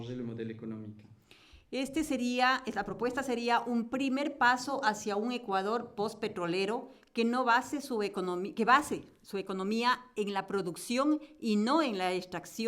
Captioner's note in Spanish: Español